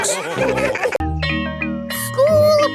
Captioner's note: school bell rings